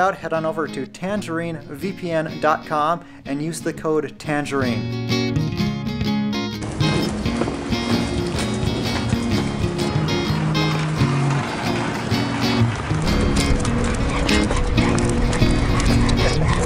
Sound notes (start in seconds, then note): 5.2 upbeat music; 6.7 footsteps clattering; 10.6 traffic whooshing; 13.4 Laska panting